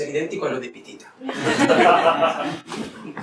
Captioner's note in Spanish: risas